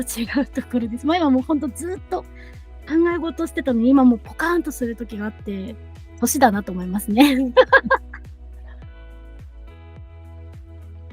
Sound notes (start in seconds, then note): 7.4 laughs